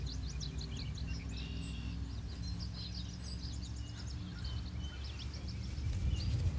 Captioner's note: birds chirping